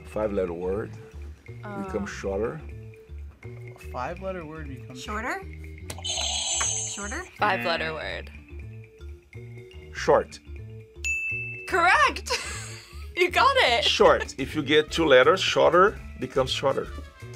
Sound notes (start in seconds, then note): 6.0 buzzer rings; 6.0 buzzer; 11.0 bell rings